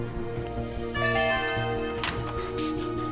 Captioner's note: computer chimes